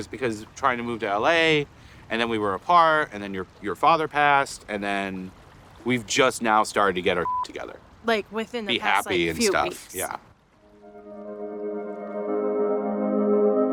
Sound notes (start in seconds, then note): 7.2 beep; 10.6 gentle music